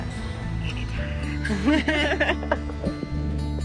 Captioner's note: both laugh